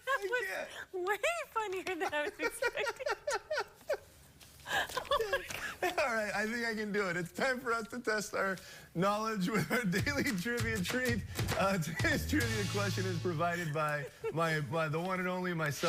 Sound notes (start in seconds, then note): 5.9 laughter; 13.6 laughter